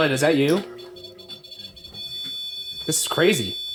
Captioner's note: continuous beeping